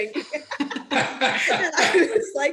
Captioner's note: everyone laughing